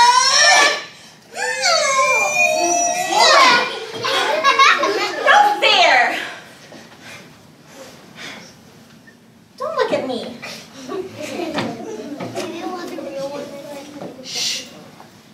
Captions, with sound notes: (audience laughing) - No fair. Don't look at me. (audience laughing)